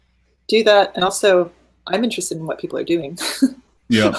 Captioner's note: laughing